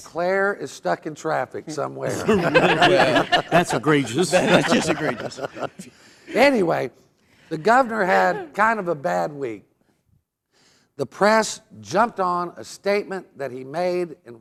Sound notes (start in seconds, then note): 2.0 laughing